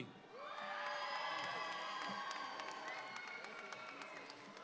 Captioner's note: audience applauds